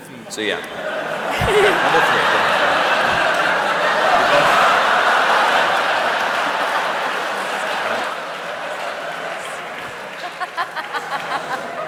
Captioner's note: laughter